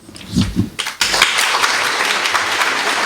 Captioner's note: applause